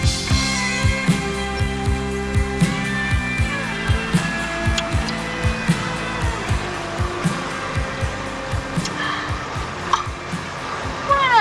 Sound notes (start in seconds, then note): 8.7 woman gasps